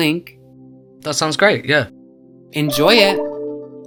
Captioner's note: voiceover